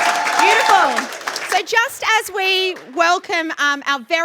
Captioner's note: cheering and Applause